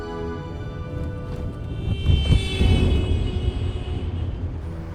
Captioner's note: horn blares